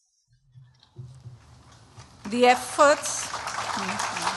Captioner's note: applause